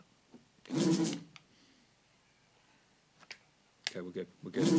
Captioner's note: buzzing